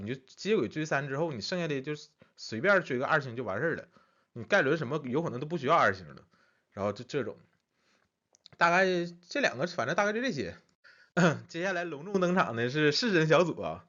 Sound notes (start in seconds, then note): 11.1 cough